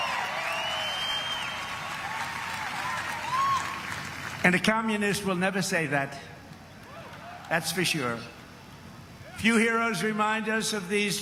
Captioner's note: applause